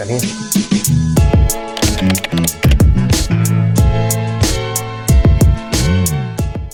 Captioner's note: mid-tempo instrumental music; keyboard clicks